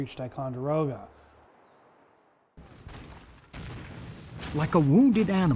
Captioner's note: cannon blasts